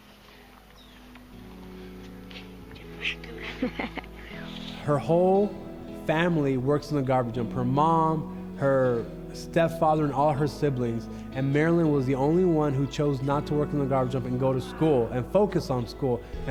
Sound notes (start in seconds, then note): 1.2 soft instrumental music; 2.8 laughing; 2.8 speaks in foreign language